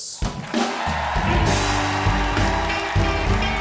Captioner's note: applause